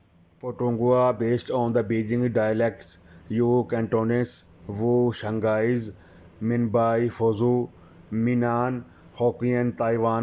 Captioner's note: Cantonese